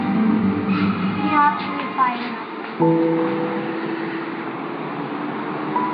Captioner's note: child 1 speaking foreign language